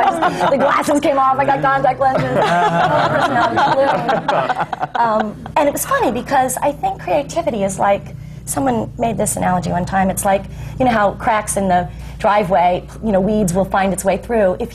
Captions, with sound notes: The glasses came off, I got contact lenses! (LAUGHTER) My whole personality bloomed. And it’s funny, because I think creativity is like -- someone made this analogy one time -- you know how cracks in the driveway, weeds will find their way through.